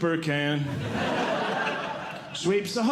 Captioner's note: audience Laughing